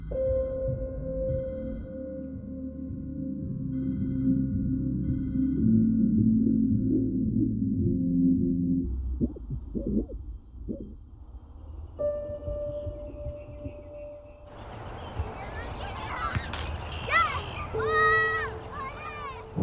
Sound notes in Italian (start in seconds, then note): 17.0 Vocio di bambini